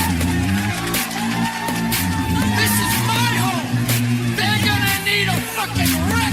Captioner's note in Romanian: Aplauze